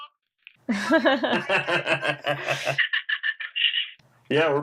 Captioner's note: laughter